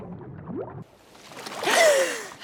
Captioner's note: gasping